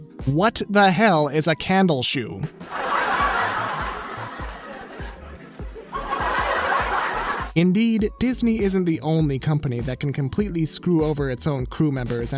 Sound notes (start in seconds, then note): 2.7 all laughing; 5.8 laughing continues